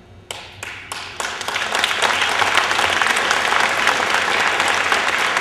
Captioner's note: applause